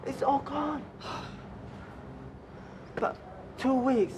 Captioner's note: triad member exhales sharply